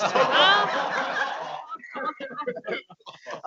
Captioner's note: laughing